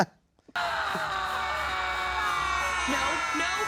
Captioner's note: host laughing; all fruit screaming